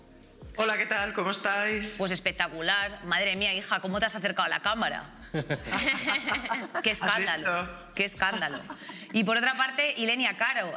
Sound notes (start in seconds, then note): 5.3 they laugh